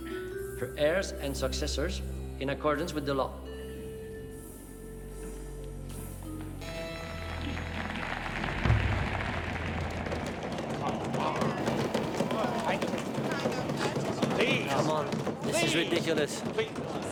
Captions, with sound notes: for heirs and successors in accordance with the law. (people clapping) (hands thudding) - Please. - Come on. - Please. - This is ridiculous.